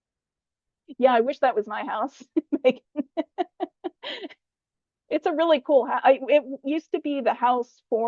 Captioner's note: laughs